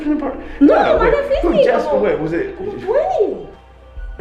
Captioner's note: speaking Spanish